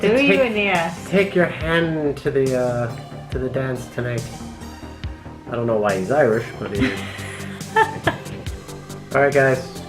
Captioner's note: laughs